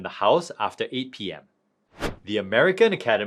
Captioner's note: transition whooshing